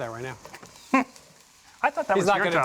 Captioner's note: chuckles